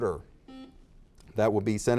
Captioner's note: buzzer dings